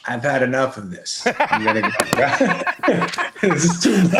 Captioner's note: laughing